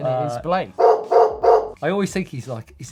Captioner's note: loud barking